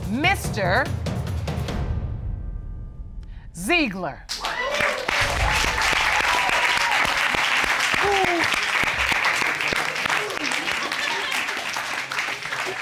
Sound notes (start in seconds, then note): 5.1 audience cheering; 8.0 hooting; 11.0 audience laughing